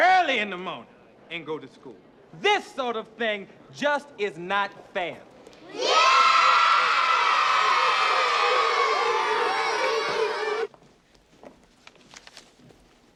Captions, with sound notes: Then get up early in the mornin' and go to school. This sort of thing just is not fair. [Cheering]